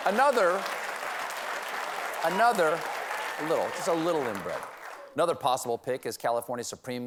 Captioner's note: applause